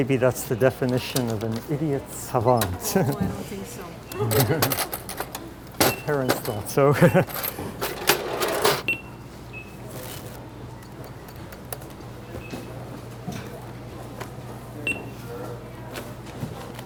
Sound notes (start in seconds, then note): 6.9 chuckle; 8.9 beep; 14.9 beeping